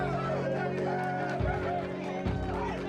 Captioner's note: whooping, hollering